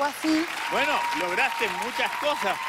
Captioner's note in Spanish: Aplausos y aclamaciones